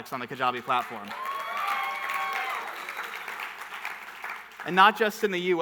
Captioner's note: audience cheering and clapping